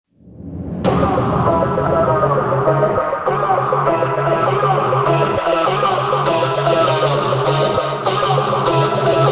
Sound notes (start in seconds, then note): 0.0 whooshing; 0.8 hip hop music